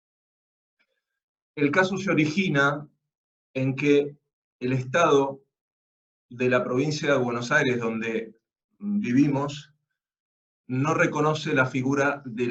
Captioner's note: Spanish